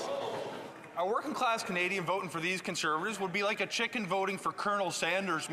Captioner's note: some Applause